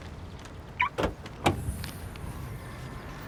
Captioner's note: car unlocks